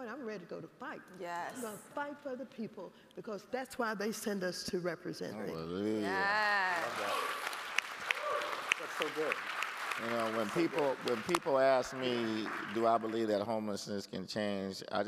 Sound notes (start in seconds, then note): 6.1 all applauding